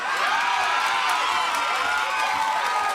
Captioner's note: crowd cheering